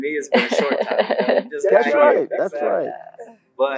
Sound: laugh

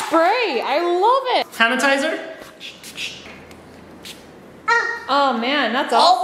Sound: bottle squirting

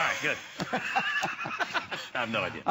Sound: laughter

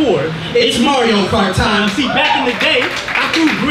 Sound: crowd cheering

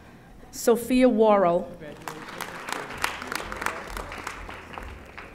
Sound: audience applauding

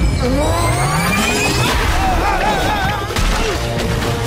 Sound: screaming

